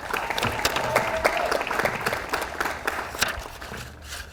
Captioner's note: audience applauds